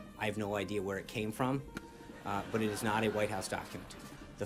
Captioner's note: laugh track